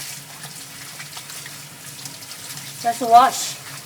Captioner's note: water splashing